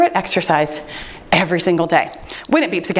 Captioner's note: timer beeps